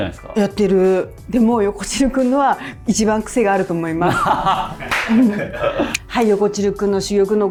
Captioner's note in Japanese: 笑い